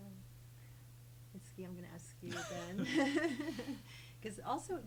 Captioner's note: laughs